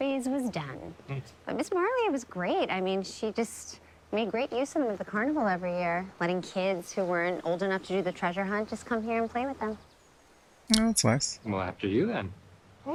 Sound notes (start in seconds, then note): none